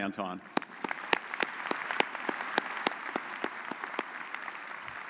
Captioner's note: audience applauds